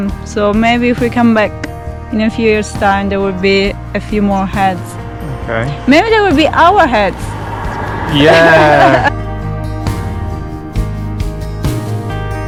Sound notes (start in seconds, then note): 7.6 laughing; 9.1 calm music